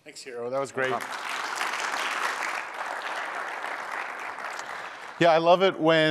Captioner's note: applause